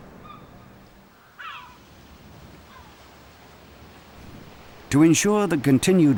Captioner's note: birds shrieking